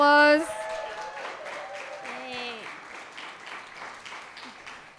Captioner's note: audience cheering